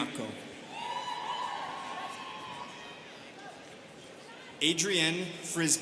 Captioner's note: students cheering